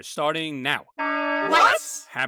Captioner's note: alarm